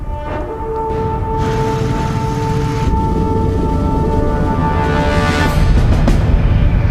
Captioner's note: dramatic orchestral music; motors whirring